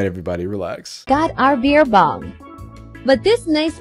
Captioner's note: Ai voice